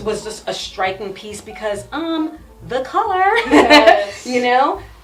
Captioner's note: laughs